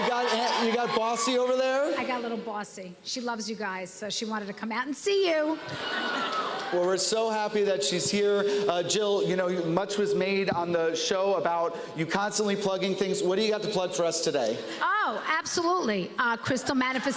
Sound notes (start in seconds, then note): 5.6 laughter